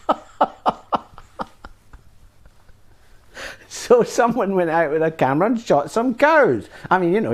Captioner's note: laugh